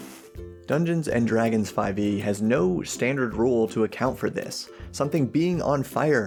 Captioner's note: lights match